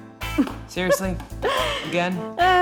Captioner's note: Penny laughs